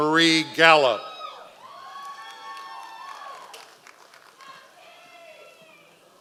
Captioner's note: members of the audience cheering